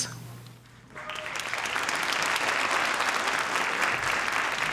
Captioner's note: audience applauding